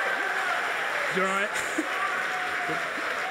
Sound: audience applauding; laughs

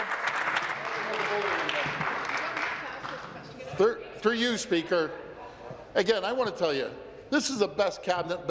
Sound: applause

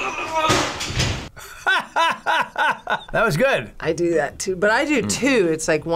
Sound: laughs

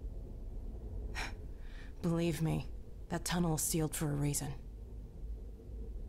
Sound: sigh

